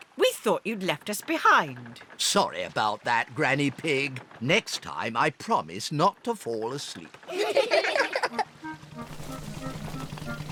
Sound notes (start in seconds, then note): 7.2 all giggle